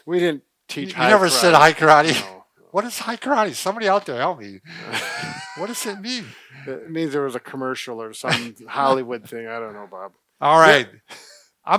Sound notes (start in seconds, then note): 4.6 both laugh